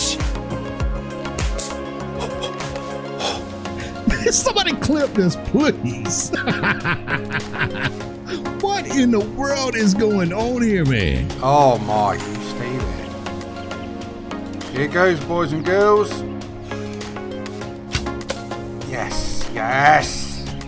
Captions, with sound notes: [CLAPS EXCITEDLY] Somebody clip this, please! [LAUGHING] What in the world is going on here, man? Oh my. You stay there. Here it goes, boys and girls! Yes. Yes!